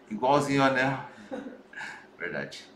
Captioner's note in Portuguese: risos